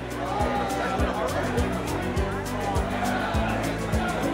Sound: crowd cheering

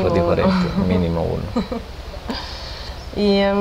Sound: laughts

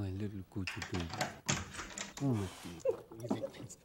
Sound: door opens

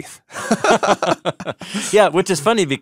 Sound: laughing

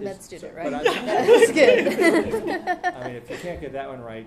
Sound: laughs

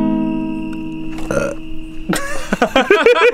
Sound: burp

